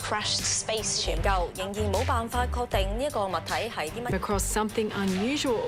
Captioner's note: speaking foreign language